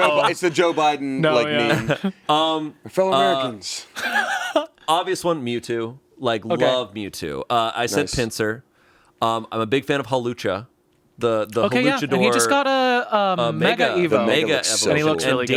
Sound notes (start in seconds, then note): 3.9 laughs